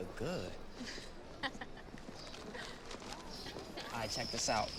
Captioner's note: Izzie chuckles